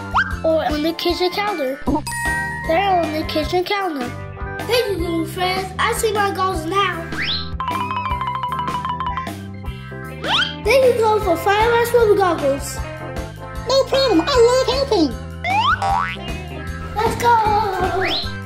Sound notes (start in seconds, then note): 2.0 ding sound effect; 7.4 comical symphony; 16.5 comical symphony